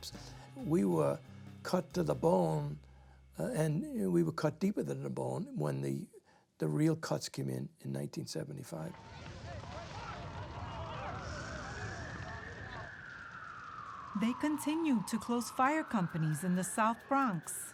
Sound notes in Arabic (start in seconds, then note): 8.9 صراخ الناس; 8.9 صوت طقطقة النار; 11.0 صافرات الإنذار تدوي